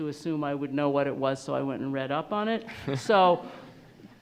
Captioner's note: attendees laughing